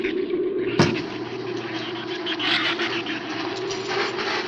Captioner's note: shrew snarls; flames hiss